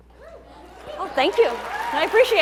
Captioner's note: audience cheering